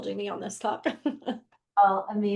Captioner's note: laughs